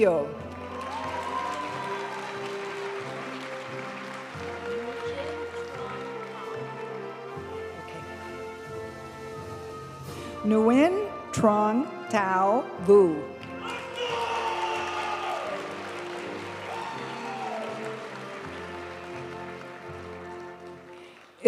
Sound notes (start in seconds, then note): 0.4 audience cheering and applauding; 4.7 graduation music; 13.4 audience cheering and applauding; 17.9 graduation music